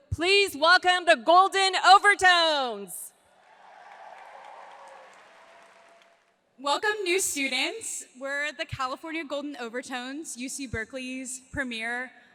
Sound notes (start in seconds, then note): 3.4 audience applauds